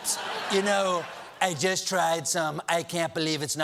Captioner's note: laughter